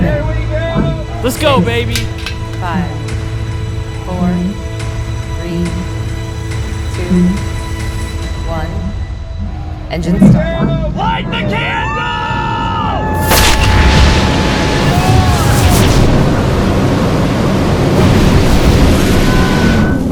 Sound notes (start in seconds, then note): 12.8 cheering; 13.1 launch noises